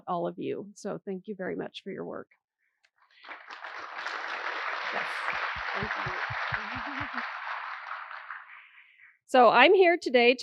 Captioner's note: applause